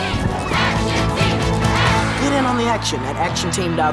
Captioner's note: chanting